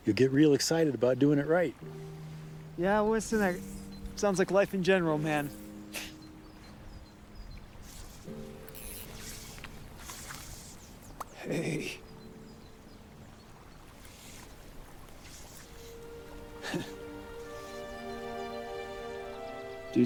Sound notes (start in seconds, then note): 6.0 Kent scoffing; 16.6 Kent chuckling; 17.7 gentle music